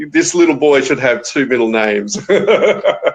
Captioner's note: laughing